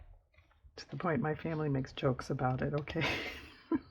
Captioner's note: laughs